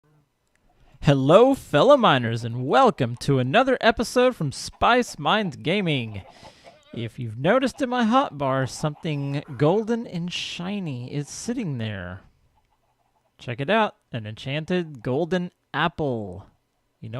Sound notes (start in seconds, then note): 6.5 chickens clucking; 8.1 llama calls; 11.6 donkey brays